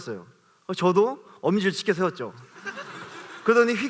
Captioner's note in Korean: 웃음